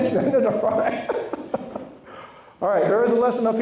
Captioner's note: laughs